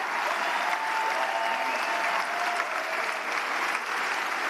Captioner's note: applause; cheers; applause